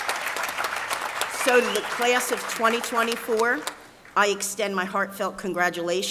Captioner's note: applause